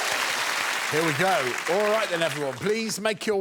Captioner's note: applause